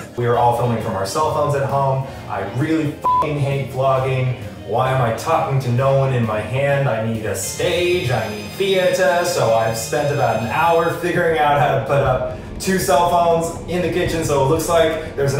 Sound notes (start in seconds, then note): 3.0 beep